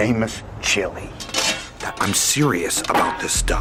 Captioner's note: lid clanging